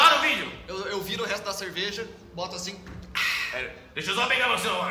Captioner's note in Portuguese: suspiro